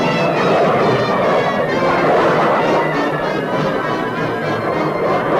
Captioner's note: suspenseful music continues; plane engines revving